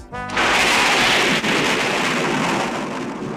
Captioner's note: thunder